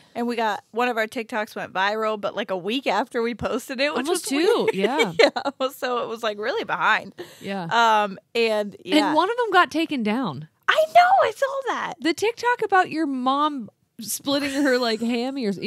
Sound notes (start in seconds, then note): 4.0 laughs